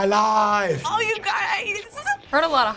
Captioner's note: excitedly